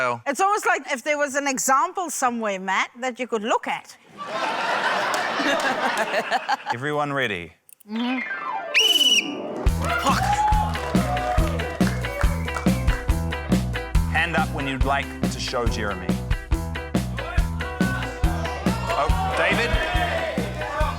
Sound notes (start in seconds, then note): 4.1 laughter; 8.7 blows whistle; 9.7 scattered cheering; 17.1 audience shouts, exclaims